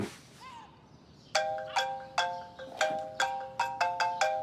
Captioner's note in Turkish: Telefon çalıyor